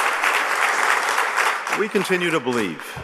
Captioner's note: applause